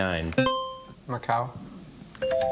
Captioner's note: buzzer chimes